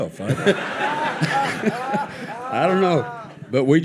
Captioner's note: audience laughing